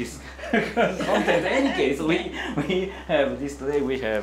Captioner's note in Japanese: 会場笑